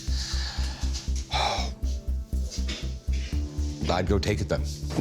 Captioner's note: sigh